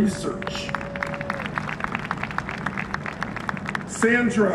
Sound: applause

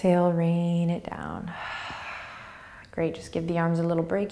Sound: exhaling

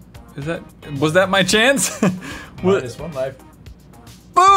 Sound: chuckles

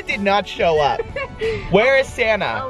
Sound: giggling

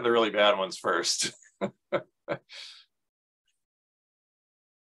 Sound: laughs

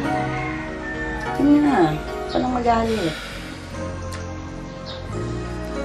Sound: sighs

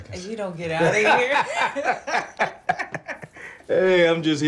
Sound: Jada and Darnell laughing

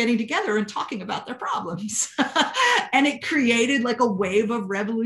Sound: laughter

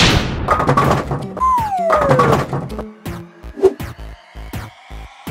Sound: rolling and thudding; whip cracking; comical tooting

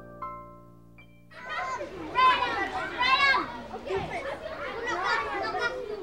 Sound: children playing

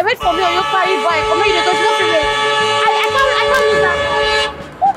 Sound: hooting

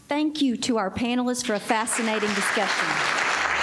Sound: applause

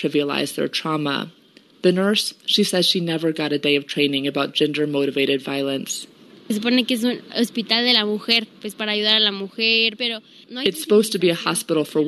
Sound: speaking in Spanish

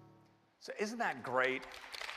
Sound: applause

